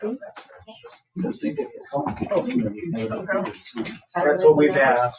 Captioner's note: people chattering